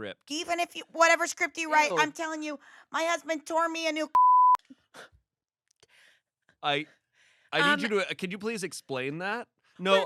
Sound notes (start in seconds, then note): 4.1 beep